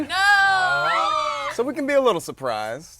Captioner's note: players whining